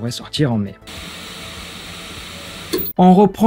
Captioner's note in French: bruit de machine à tour